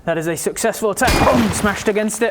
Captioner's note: boom!